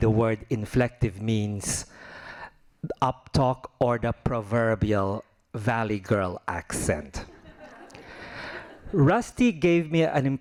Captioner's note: laughing